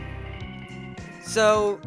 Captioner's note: cough